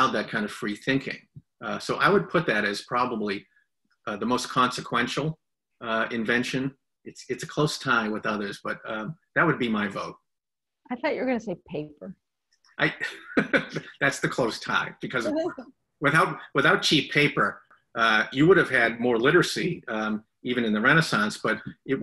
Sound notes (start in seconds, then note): 15.3 laughs